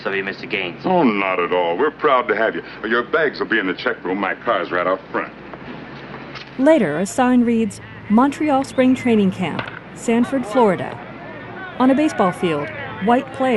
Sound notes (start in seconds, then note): 7.1 distant yelling; 9.5 hitting ball; 10.3 scattered yelling